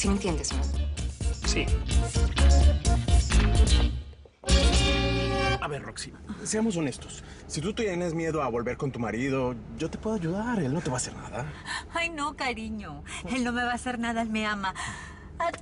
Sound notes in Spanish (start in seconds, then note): none